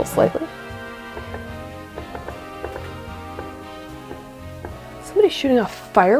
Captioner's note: distant pops